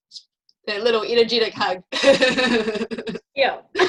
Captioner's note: laughing